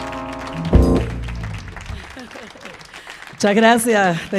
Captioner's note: audience applauding